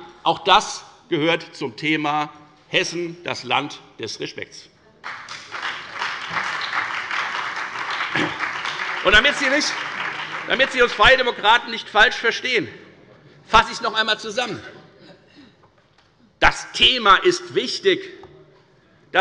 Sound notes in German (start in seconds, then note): 5.0 Beifall bei der FDP, der SPD und der LINKEN